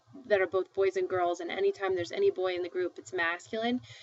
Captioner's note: speaking spanish